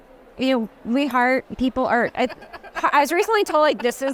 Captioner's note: laughing